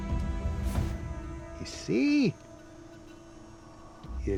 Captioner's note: scottish accent